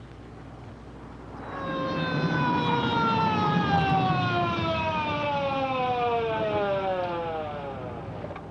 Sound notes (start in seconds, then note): 1.3 siren blaring